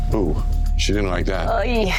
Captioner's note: none